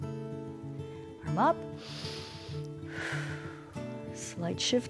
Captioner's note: inhales and exhales